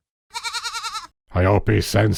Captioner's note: goat bleat